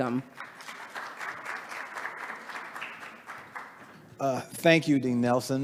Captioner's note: attendees applauding